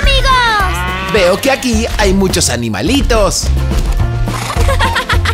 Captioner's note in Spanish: Sonido oveja